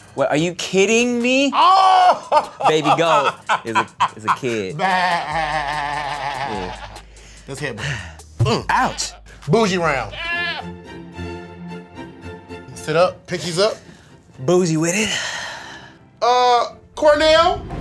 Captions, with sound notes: - Are you kidding me? - Oh! (laughs) - Baby goat is a kid. - (bleats) Let's headbutt. - Ouch! - Bougie round. (soothing music) Sit up, pinkies up. - Bougie with it. (sighs) - Uh, Cornell?